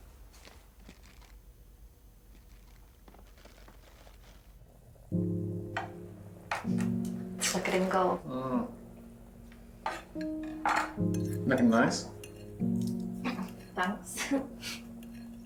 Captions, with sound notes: [gentle piano music playing] -Look at him go. -Mhm. You're looking nice. [giggles] Thanks.